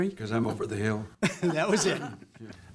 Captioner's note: laughter